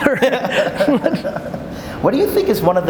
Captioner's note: laughing